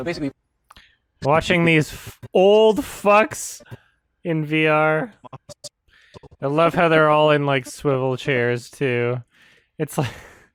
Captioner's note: chuckles